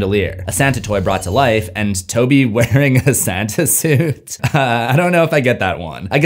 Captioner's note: laughing